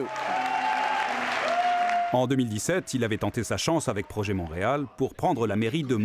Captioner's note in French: cris et applaudissements